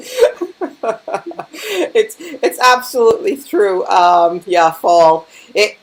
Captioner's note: laughing